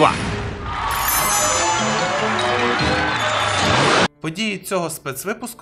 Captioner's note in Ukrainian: оплески